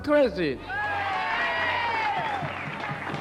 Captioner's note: cheering and applause